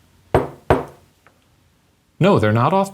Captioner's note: knocks on table